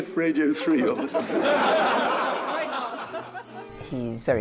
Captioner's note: crowd laughing